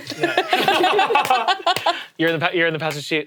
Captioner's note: all laughing